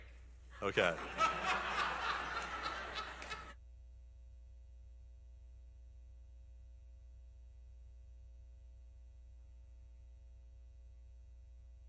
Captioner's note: laughter